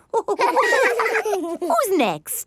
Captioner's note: all laughing